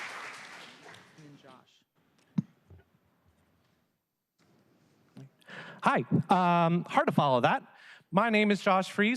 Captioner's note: applause